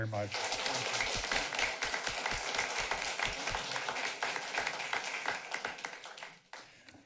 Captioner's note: applause